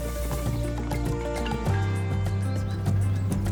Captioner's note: birds chirping, bell rings